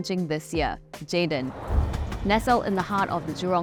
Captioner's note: train whooshing